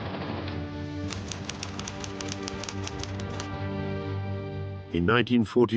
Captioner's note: typewriter clacking